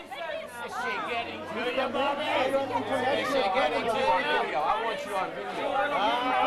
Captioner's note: chatter